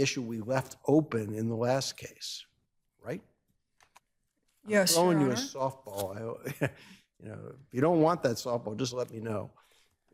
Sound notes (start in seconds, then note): 6.6 chuckles